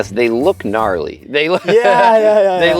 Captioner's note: laughs